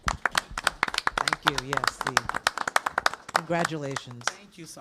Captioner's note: applause